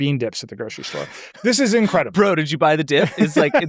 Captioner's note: laughs